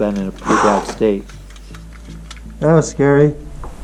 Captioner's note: sighs